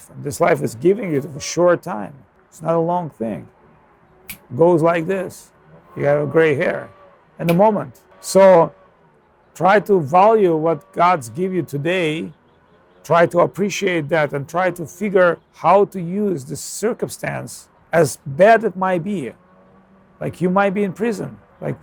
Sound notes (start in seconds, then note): 4.2 snaps